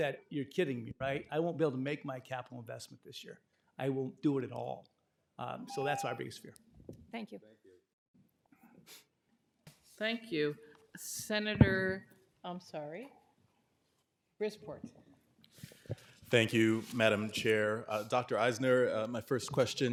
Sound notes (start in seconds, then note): 5.6 timer tone